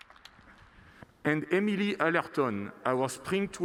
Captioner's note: applause